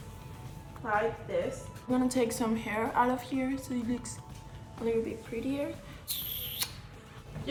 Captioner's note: kiss